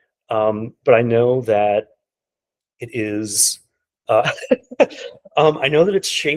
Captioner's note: laughing